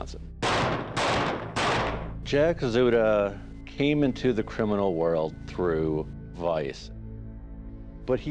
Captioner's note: gunshots booming